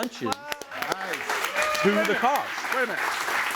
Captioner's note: audience applauds and cheers